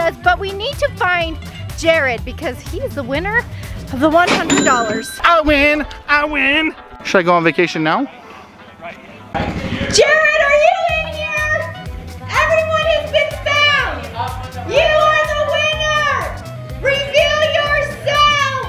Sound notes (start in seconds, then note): 4.3 cash register rings